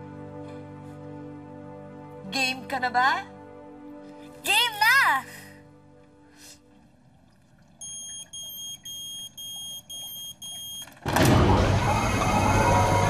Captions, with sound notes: Are you ready? I'm ready. [beeping] [whirring]